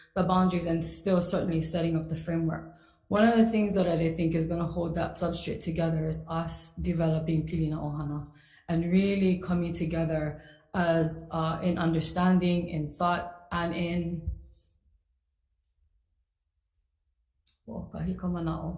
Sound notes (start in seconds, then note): 7.6 speaks foreign language; 14.4 speaks foreign language